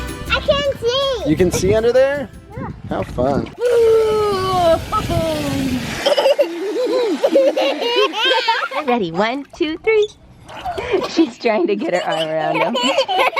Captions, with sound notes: I can see. - You can see under there? - Yeah. - How fun. - Ooh, ho ho! (water squirting) (kids laughing) - Ready, one, two, three. She's trying to get her arm around him.